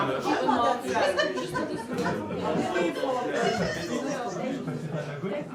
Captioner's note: village gossiping